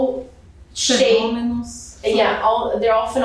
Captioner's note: speaking portuguese